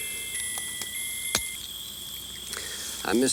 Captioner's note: pocket watch clicks